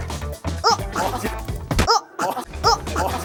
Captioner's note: slam